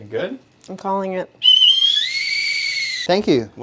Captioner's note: whistle